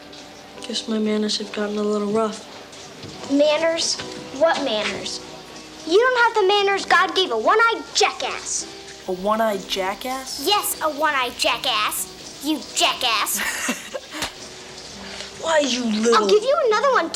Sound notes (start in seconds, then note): 13.3 Ned chuckles; 14.2 hand slaps